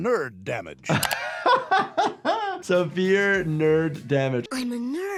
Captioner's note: laughs